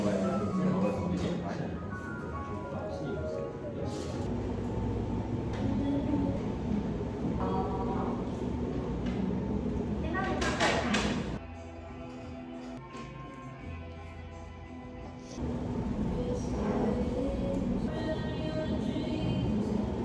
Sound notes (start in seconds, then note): 7.3 the quiet of the restaurant sounds